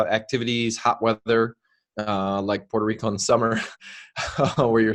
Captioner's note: chuckles